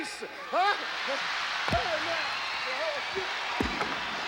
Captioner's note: audience cheering